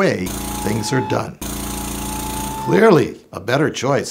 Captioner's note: jack-hammer !!!